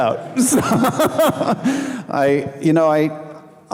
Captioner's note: laughing